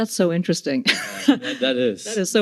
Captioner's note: laughing